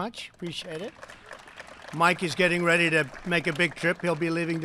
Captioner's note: applause